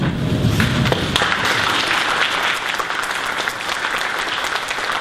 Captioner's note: audience applause